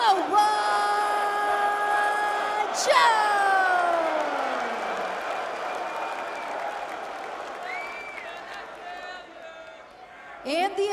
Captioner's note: crowd cheering